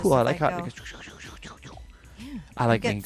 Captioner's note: makes sound effects